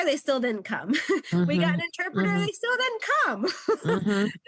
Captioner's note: chuckles